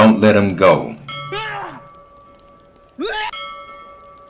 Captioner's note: man screams